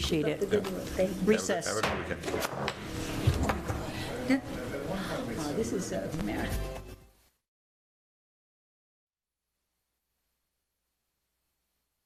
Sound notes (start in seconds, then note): 3.6 people chattering; 3.9 gavel tapping